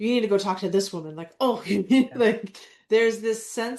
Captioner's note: laughs